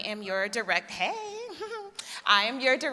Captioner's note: laughs